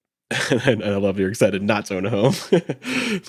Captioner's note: chuckles